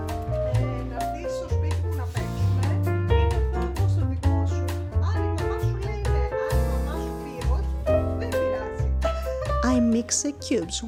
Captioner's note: talking on the phone in Greek